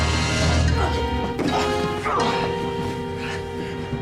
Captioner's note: grunting